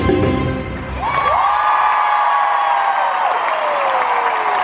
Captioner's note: crowd cheering